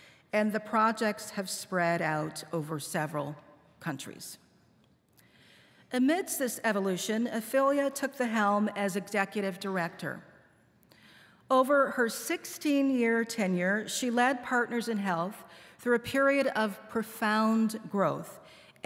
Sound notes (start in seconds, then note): none